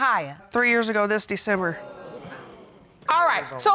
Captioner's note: audience exclaims